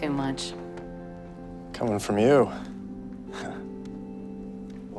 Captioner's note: chuckles